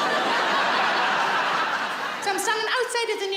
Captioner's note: audience laughs